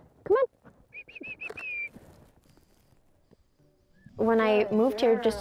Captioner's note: whistles